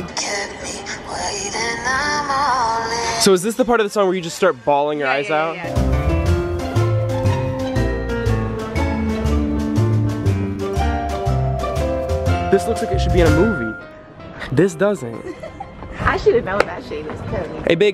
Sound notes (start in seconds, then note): 6.0 whimsical music; 15.2 laughing